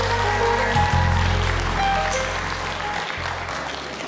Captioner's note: applause